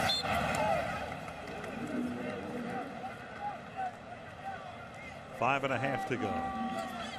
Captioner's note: whistle blows